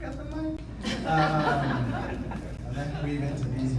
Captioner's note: audience laughing